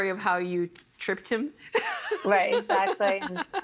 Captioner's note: laughing